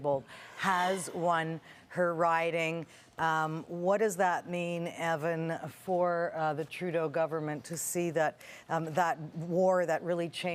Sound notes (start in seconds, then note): none